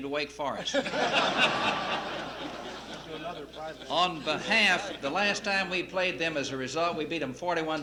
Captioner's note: laughter